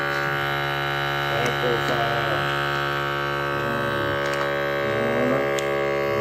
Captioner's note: sealer buzzing loudly drowns out speaker